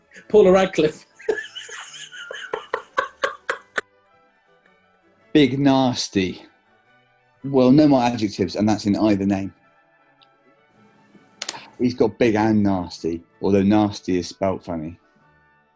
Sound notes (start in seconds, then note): 0.1 laughing